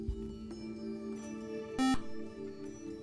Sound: buzzer

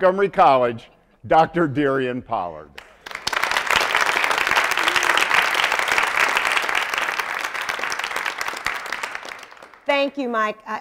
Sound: applause

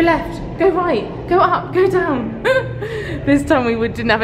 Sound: laughing

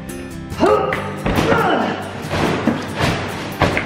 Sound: grunts

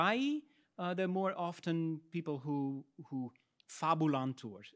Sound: speaks in Latin; speaks in Latin

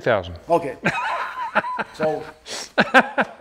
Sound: laughs

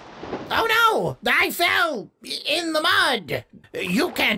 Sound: splashing in the mud; stammering

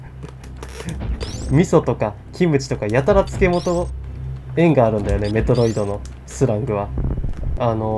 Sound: laughs

